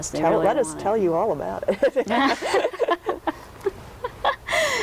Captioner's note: laughs